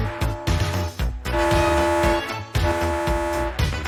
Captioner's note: alarm blares